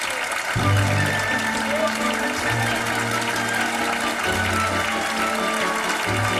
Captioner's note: audience applauding; orchestral music